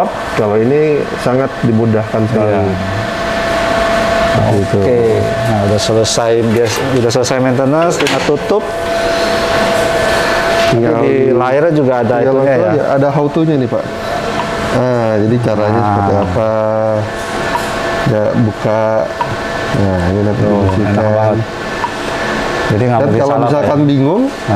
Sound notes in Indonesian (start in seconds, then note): 14.2 suara touch screen